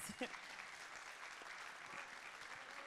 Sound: audience clapping

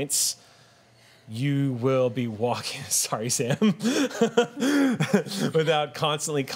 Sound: laughs

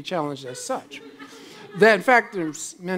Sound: laughs

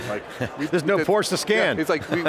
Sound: laughs

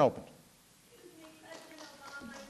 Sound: applause

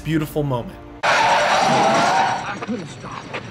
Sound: wheels screeching

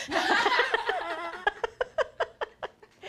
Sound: laughter

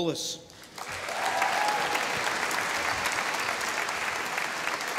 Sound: audience applauding

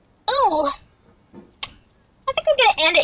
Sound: tsk

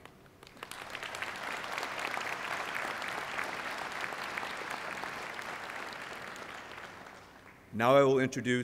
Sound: applause

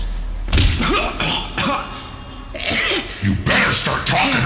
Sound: cough

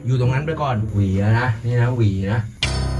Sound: slamming

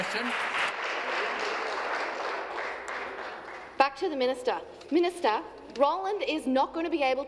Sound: applause

